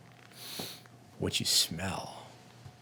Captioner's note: sniffing